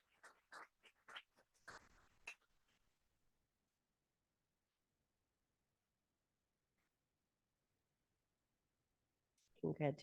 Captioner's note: audience applauding